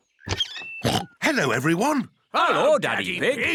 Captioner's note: oinks